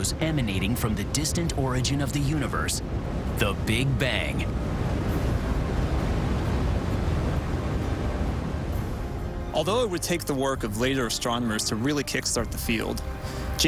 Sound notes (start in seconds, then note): 4.0 <i> WHOOSHING</i>